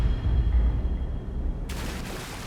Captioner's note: water splashes